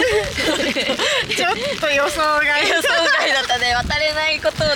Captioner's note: laughs